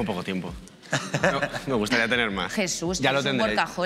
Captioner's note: laughter